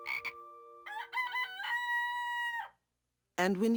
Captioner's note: rooster crows